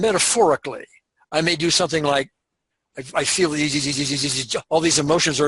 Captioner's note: imitates shivering